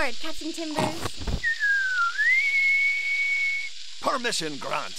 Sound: "piping aboard" whistle

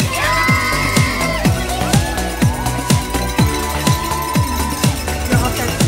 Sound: cheering and cowbells chime

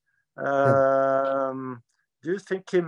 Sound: chuckles

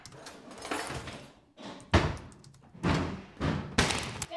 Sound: cabinets banging

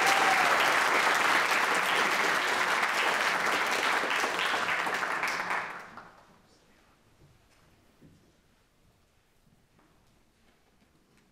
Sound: audience applauds

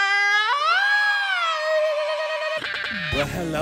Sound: tongue-clicking; Beanz laughing

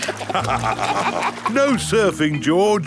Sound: both laugh

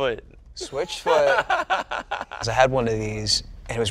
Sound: laughs

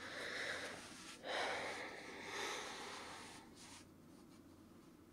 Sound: sighs

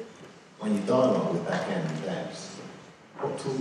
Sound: voiceover

